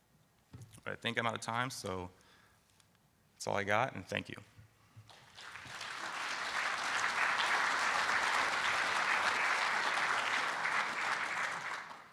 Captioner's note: round of applause from audience